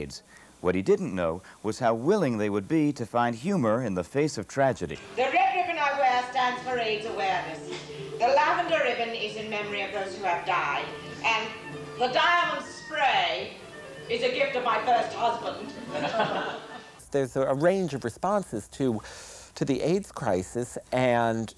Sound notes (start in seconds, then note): 15.8 laughter